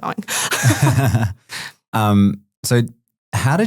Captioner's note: group laughing